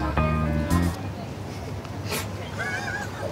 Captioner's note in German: Lachen im Hintergrund